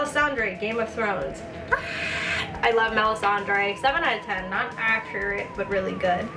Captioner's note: screech